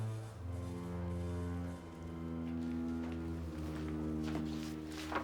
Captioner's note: footsteps shuffle